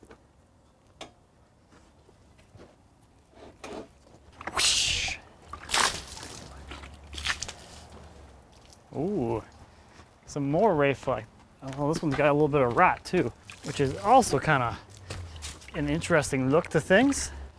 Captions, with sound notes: (water splashing) Oh, some more ray fleck. Although this one's got a little bit of rot, too, which is also kind of an interesting look to things.